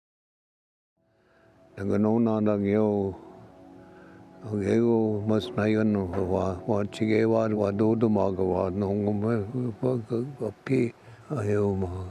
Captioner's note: speaking Ojibwe